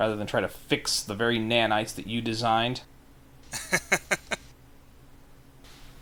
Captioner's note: laugh